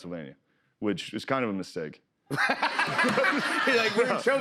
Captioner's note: laughter